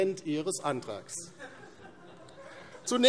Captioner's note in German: Heiterkeit DIE LINKE